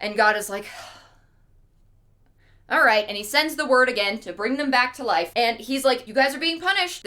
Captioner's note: sigh